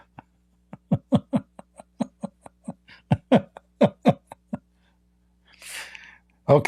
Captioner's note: Ketawa